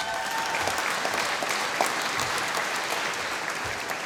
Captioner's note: applause